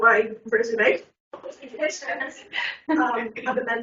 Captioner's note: everyone laughing